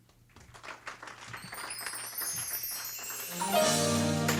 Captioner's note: audience clapping